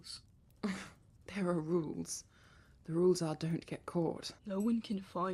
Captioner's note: Regulus huffs